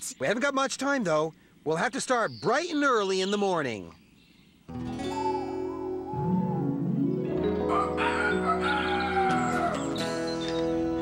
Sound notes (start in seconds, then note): 7.4 rooster crows